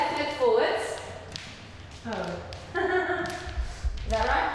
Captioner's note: laughing